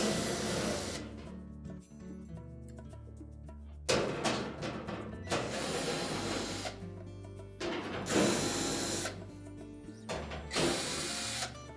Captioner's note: drilling noise